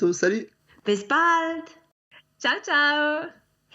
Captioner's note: speaks in foreign language